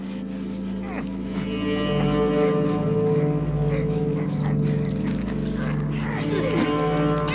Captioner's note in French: Gémissements